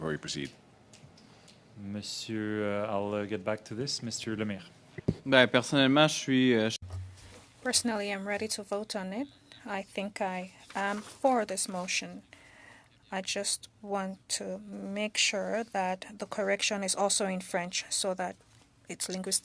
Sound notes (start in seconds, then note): 11.0 speaking French